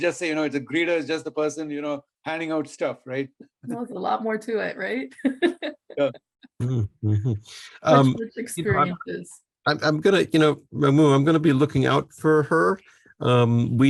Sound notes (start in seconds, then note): 5.3 laughs